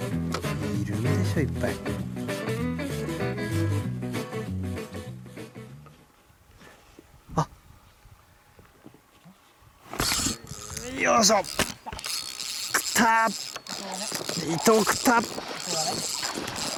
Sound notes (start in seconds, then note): 9.9 intense reel drag sound